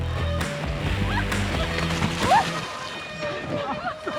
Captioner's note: squeals, laughs